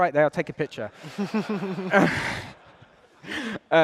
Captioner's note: laughter